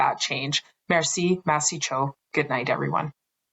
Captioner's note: speaking french